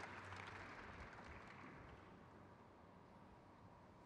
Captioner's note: crowd claps